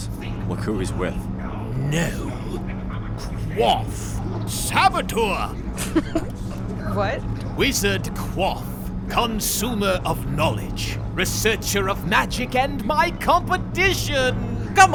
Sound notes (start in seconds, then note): 5.7 chuckling